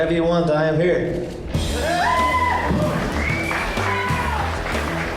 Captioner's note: cheering